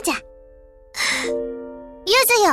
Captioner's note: bated breath